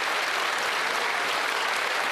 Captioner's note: some Applause